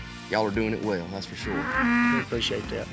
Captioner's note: mooing